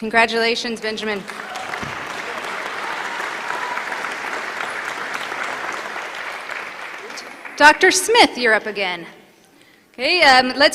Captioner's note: applause